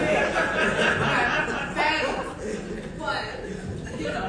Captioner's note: audience laughing